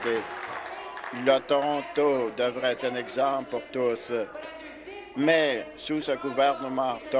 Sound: applause

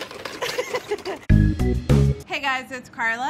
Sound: laughs; upbeat music

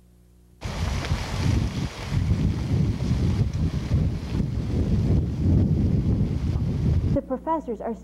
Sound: static wind noises

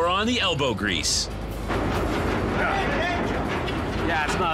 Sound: banging

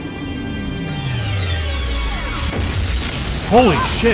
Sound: wzyo-ow-BOOSH

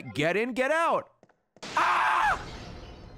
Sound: screams

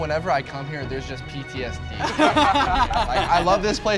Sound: all laugh

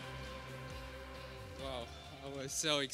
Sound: applause

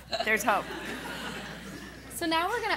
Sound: laughing

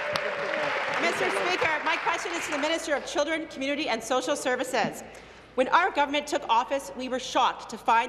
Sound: applause

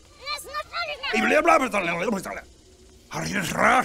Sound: indignant jabbering; Concerning Bob noises

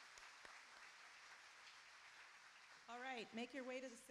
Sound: applauding

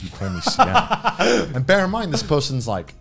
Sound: cackles

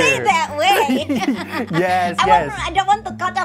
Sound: laughter

